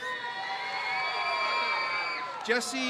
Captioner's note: crowd cheers